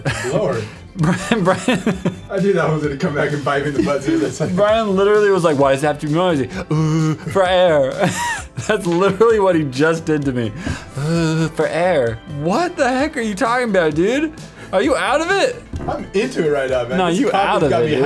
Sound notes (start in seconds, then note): 0.9 cut off by laughing; 7.1 imitates sound